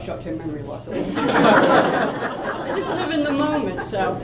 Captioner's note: laughter